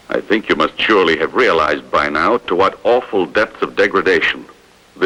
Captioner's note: none